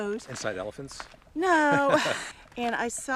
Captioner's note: chucking